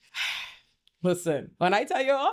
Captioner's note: sighs